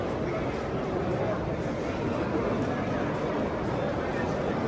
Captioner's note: background chatter